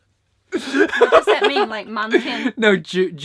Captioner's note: laughs